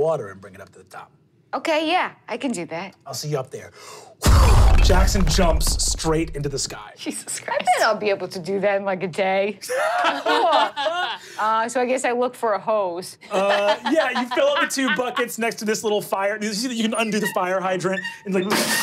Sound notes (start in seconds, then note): 4.3 whooshing; 9.7 laughing